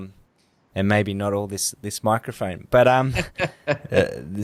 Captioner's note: laughs